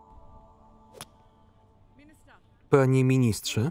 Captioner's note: smacks